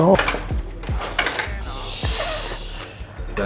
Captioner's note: ball hitting pucks; sighs